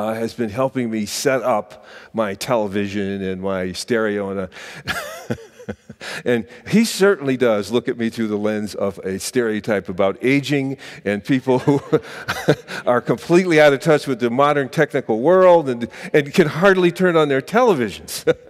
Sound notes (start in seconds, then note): 4.8 laughs